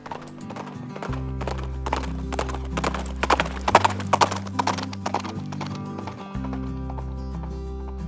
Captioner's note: sound of horse hooves